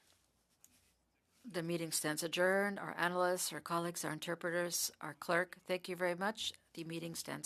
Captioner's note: speaking French